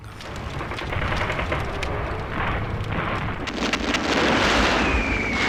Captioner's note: explosions booming